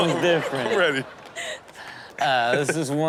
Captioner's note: crowd laughs